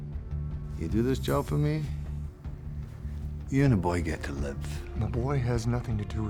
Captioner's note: scottish accent